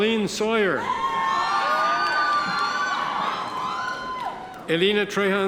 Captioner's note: audience members cheer